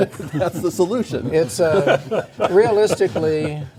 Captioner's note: laughing